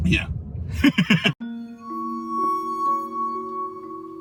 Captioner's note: laughs; slow, creepy music